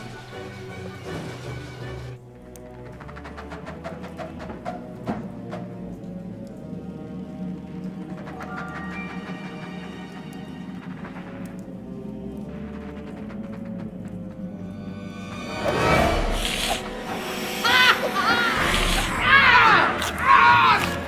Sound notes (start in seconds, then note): 2.1 foreboding music; 14.9 vampires hissing; 15.4 tense music; 19.1 vampires growling